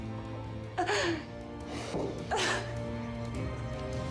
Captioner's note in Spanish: sollozos